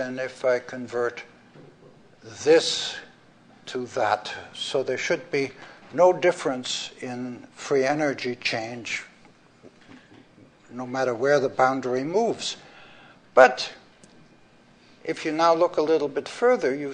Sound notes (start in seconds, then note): none